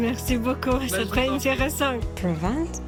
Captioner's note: french